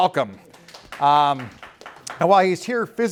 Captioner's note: applause